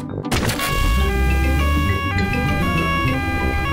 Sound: siren wailing

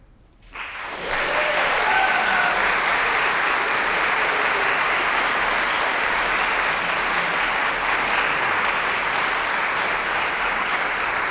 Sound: applause

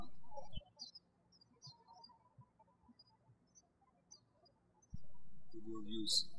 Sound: birds chirping

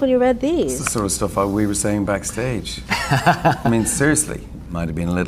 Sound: laughs

